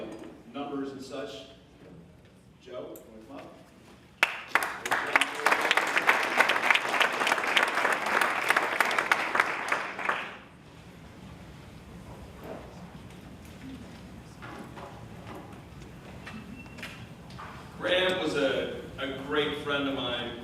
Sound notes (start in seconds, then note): 4.2 applause